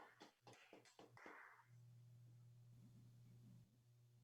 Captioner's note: applause